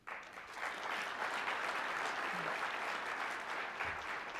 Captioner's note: applause